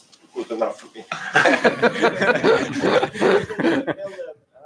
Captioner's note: laughter